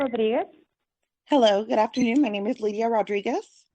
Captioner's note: speaking Spanish